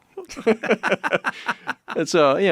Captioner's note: laugh